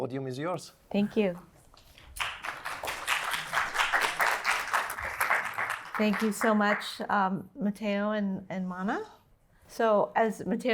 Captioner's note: applause